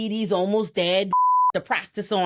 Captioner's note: beep